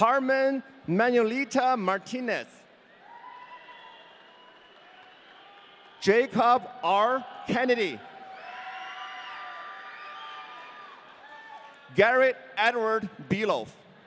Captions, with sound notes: Carmen Manuelita Martinez. (audience cheering) Jacob R. Kennedy. (audience cheering) Garrett Edward Beloff.